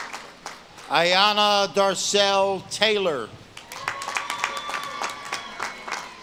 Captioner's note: audience claps and cheers